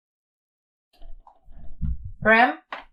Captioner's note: silence continues; door opens